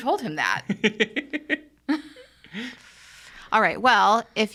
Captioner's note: laughing